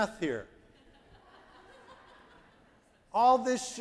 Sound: audience laughing

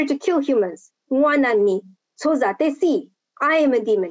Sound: speaking Lisu language

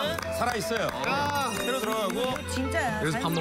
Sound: they can't help but clap

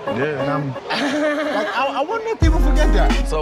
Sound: laughs

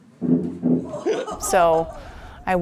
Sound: laughs

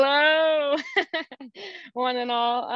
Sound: laughing

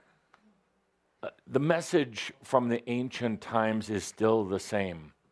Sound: none

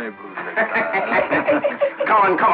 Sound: laughing

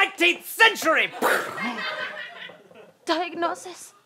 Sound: gun noise

